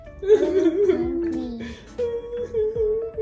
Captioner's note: weeping